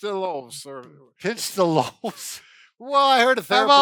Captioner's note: laughs